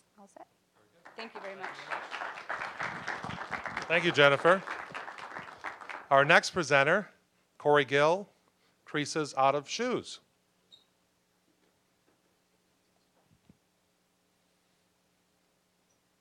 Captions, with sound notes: ALL SET? (applause) THANK YOU VERY MUCH. >> THANK YOU, JENNIFER. OUR NEXT PRESENTER, KORY GILL, "CREASES OUT OF SHOES."